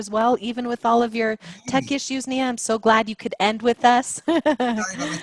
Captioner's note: laugh